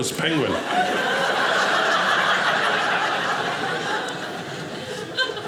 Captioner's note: audience laughing